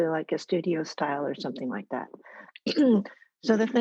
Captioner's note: coughs